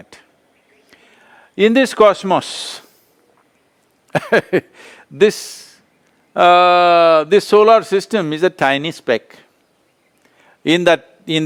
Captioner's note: laughs